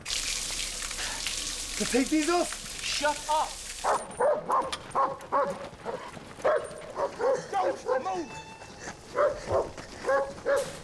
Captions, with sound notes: CAN I TAKE THESE OFF? SHUT UP. [ DOGS BARKING ] DON'T MOVE!